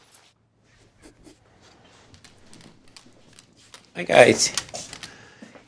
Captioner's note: dog sniffing